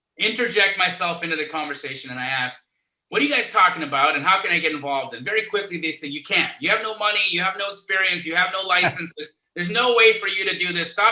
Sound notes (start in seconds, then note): 9.1 laughs